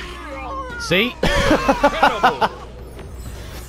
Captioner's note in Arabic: يضحك